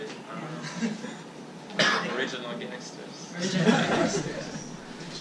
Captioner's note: all laughing